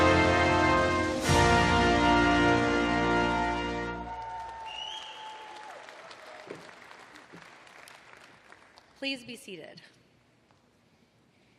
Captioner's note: applause